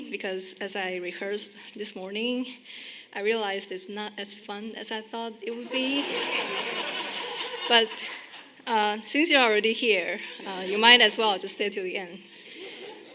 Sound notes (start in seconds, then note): 5.6 audience laughing; 12.5 audience chuckling